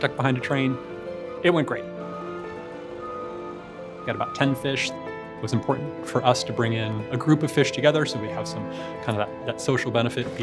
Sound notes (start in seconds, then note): 2.0 truck alarm beeping